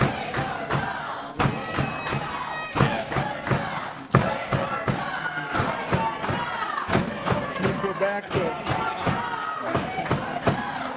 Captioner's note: audience chanting we won't go